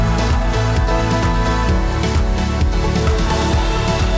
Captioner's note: crowd cheering